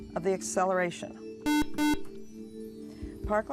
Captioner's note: buzzer